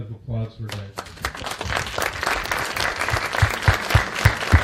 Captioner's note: applause